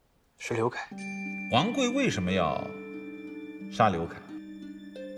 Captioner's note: ping